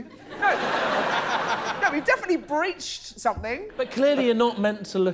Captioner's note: laughter